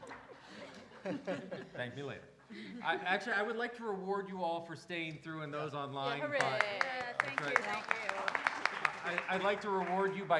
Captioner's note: laughter